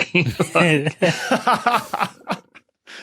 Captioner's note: guys laughing